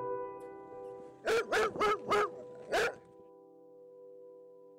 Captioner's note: dog barking